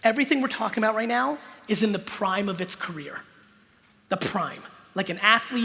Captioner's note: none